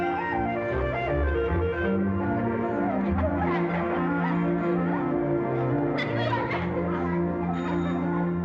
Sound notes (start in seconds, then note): 2.5 children chattering indistinctly; 7.4 bike bell rings